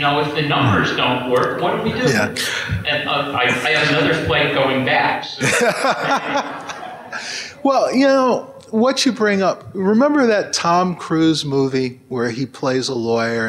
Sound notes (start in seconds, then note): 5.4 laughter